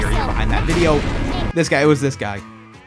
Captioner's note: lightning